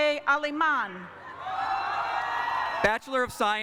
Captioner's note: cheering